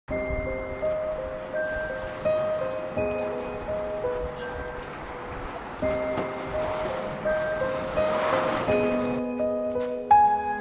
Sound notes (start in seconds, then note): 0.0 eerie music; 0.0 passing cars; 5.8 car door shuts; 6.3 passing cars